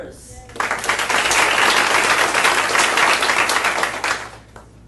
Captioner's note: audience applauding